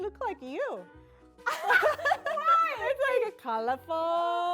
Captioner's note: laughs